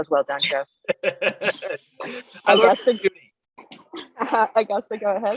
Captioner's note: laughs